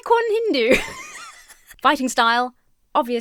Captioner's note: laughs